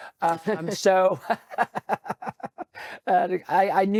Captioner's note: both laughing